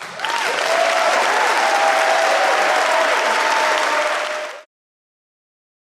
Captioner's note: audience applauds and cheers